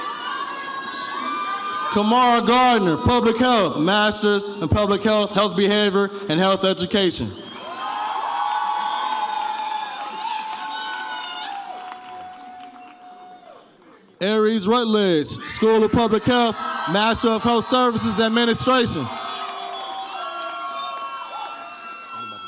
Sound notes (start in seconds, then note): 7.4 audience cheers; 19.6 audience cheers